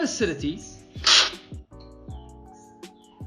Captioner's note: slurping sound